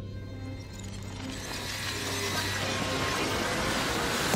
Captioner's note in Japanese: ガラスがゆっくり砕けるような音